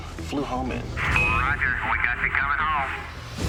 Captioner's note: beeps